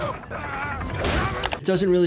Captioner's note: grunting